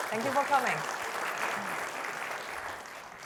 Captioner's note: applause